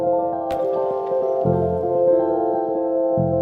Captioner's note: bottle drops